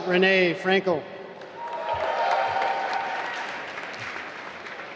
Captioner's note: applause